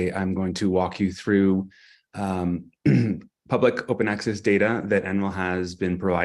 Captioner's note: clears throat